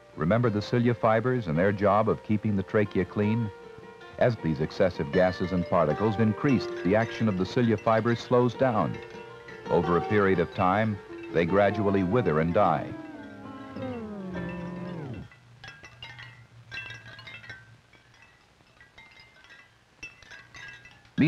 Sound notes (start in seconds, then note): 11.4 winding down sound fades out; 15.2 glass breaking; 17.9 light wind chime tinkle